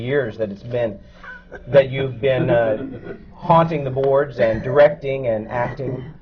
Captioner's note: laughter from the panel